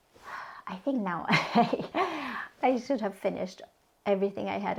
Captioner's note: chuckles